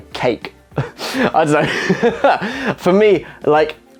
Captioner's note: laughs